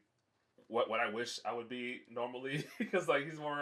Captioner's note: laughs